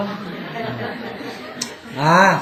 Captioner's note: audience Laughter